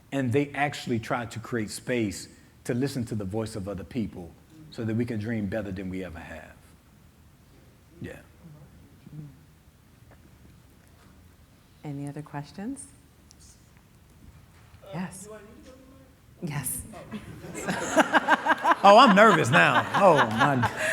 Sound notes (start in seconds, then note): 15.9 audience member speaking quietly; 17.0 everyone laughing